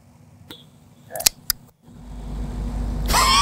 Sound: sound of click; laughing

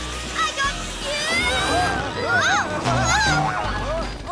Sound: screaming

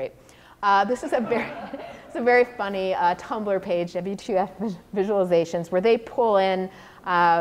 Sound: audience laughter

